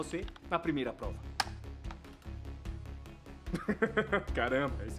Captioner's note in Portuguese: Risos